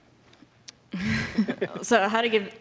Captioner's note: laughs